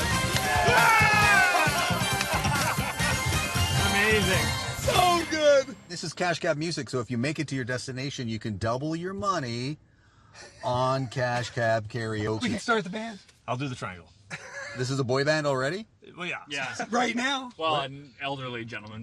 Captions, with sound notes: [Game show music] Yeah! [Cheering] Amazing. So good! This is Cash Cab Music, so if you make it to your destination, you could double your money... on Cash Cab Karaoke. We can start the band. I'll do the triangle. This is a boy band already? Yeah. Oh, yeah. Right now.